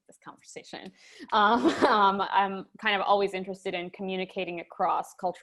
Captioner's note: laughing